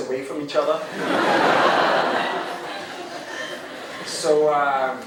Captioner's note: crowd laughing